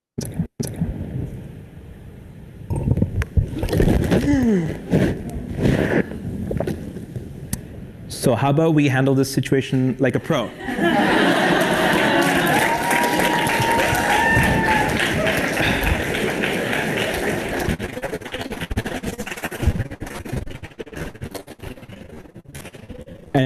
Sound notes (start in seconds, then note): 10.6 laugh; 15.5 applause